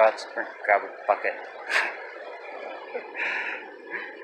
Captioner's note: chuckles